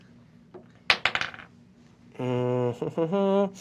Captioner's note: hums